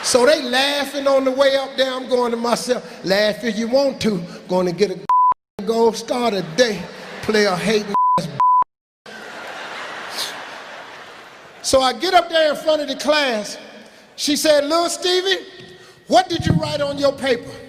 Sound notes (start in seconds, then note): 5.1 beeping; 7.9 beeping; 9.2 laughing